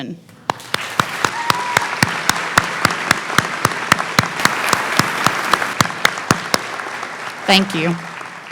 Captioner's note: clapping